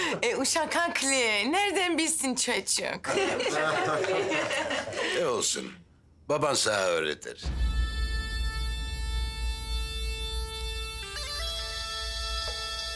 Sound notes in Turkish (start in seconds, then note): 3.0 Gülüyorlar